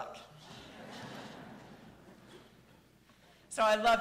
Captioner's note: audience laughing